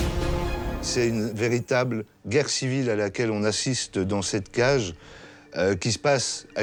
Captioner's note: speaks in foreign language